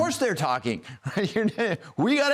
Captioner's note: laugh